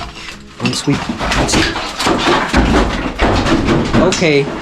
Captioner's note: clattering; drowned out by clattering rocks; rocks thump and thud